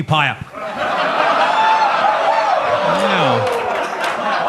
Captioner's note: audience laughs